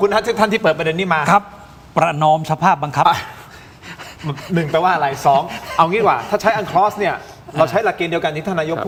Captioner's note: gasping for breath